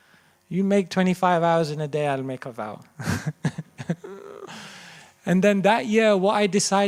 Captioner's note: chuckles